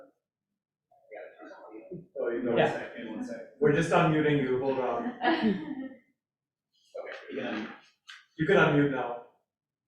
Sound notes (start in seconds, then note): 1.9 speaking faintly